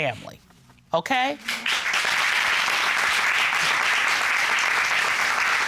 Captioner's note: applause